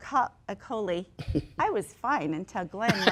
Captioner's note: laughs